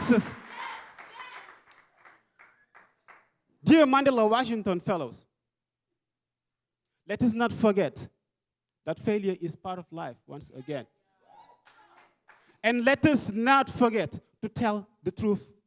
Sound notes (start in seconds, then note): 1.8 clapping; 11.3 crowd cheering and clapping